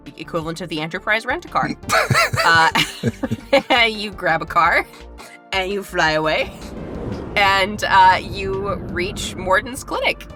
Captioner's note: laughs